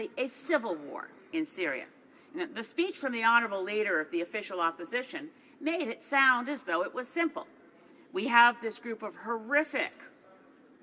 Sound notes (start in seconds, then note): none